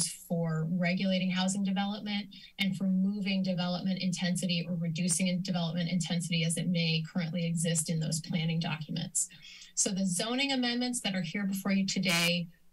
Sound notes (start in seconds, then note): none